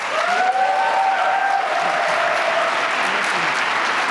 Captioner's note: applause